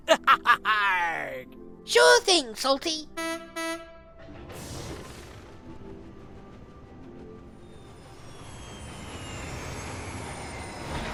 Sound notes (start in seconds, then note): 0.1 salty chuckles; 3.1 philip honks horn